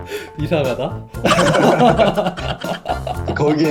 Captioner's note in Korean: 웃음소리